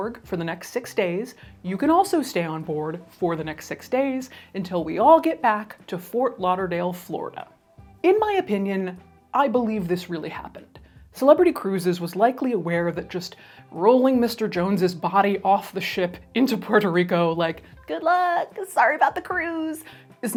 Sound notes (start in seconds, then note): none